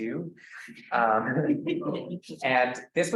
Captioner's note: students laughs